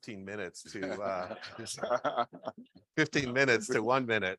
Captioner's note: all laughing